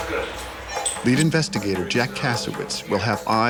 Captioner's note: voiceover